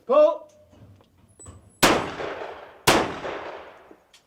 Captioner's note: gun shooting